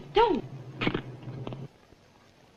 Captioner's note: material tears